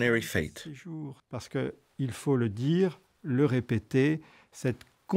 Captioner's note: French spoken audio